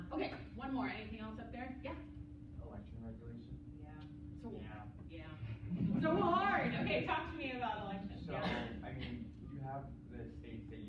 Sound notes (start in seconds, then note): 5.6 laughter